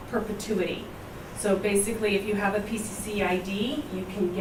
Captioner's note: none